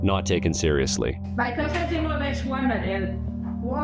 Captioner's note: nurse speaking French